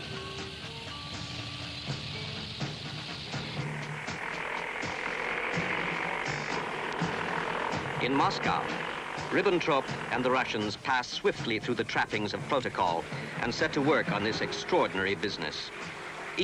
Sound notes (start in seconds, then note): 0.1 tank engines rumbling; 0.1 tense suspenseful music; 3.6 airplane engines whirring